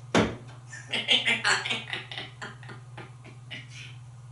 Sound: laughing

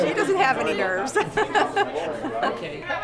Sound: laughter

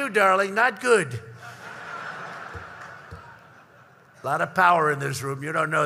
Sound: laughter

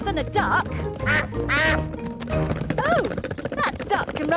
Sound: quacks

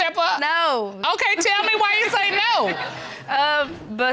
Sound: audience laughs

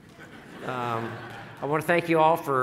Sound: laughing

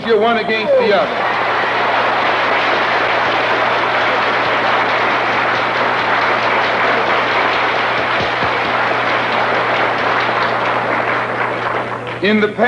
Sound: applause

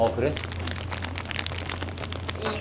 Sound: rustle rustle 🔉

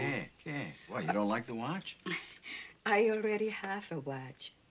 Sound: speaking spanish

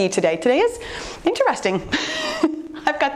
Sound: laughs

